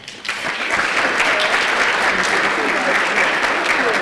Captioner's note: applause